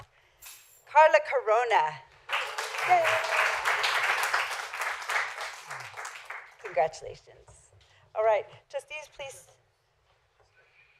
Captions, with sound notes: Carla Corona (applause) Yay! Congratulations. All right. Trustees, please.